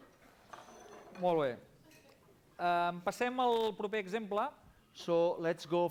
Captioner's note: non-english speech